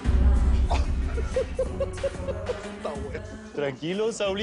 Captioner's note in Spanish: Risas